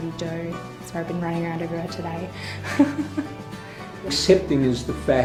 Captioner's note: laughs